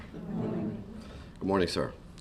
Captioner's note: audience greets